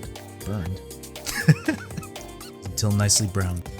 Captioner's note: laughing